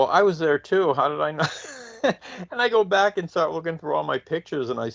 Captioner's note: chuckles